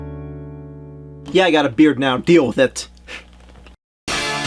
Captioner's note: laughs